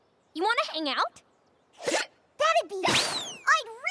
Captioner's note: hiccups